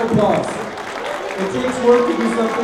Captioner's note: applause